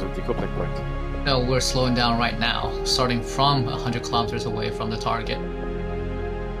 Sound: on the radio

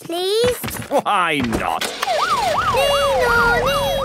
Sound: siren sounding

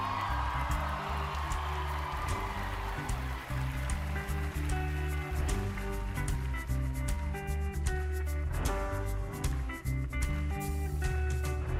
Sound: cheering, applause

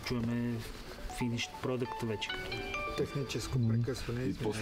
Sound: Ivan's phone rings

